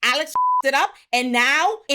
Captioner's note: beep